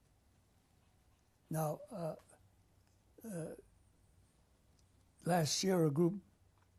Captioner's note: pauses for 3 seconds